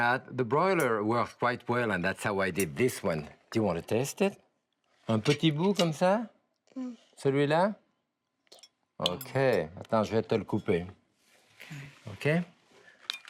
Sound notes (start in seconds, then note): 4.8 speaking in French; 9.5 speaks in French